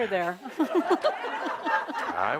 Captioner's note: laughter